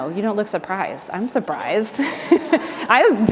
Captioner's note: laughs